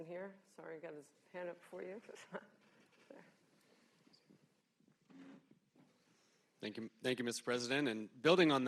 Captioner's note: laughs